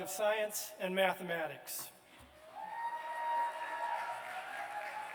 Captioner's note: cheers and applause